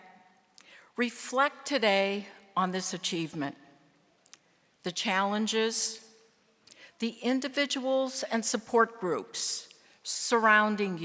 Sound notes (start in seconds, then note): none